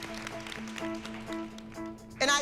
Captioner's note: applause